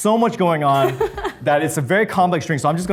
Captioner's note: Arden laughs